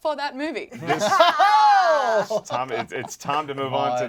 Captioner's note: laughs; exclaims